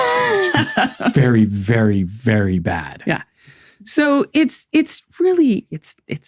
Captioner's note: laughs